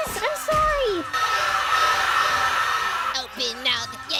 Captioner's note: screaming